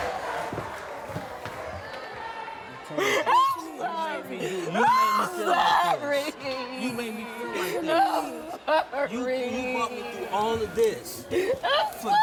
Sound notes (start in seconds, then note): 4.4 sobs